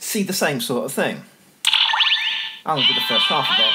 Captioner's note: electronic chime